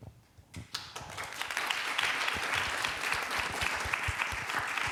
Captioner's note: applause